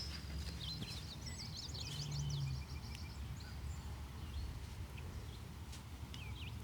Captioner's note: birds chirping